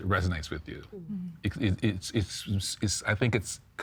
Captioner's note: stammering